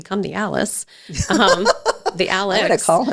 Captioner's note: laughs